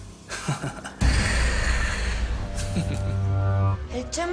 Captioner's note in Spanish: Risas